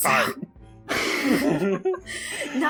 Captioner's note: laughs